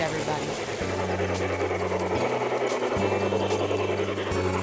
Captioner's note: train chugging